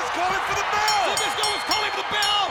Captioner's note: bell rings